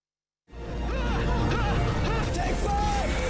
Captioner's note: people yelling